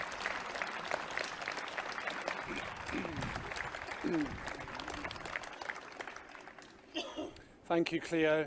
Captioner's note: clapping and cheering